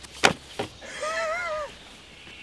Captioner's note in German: lacht